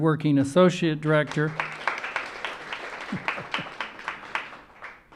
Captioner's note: audience applauding